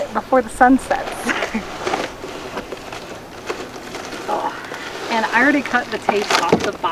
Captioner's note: grunting